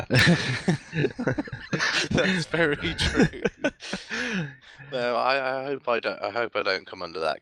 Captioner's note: laughing